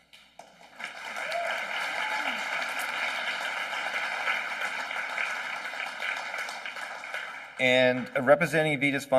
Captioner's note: applause